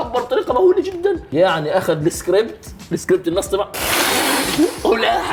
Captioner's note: both lick 👅👅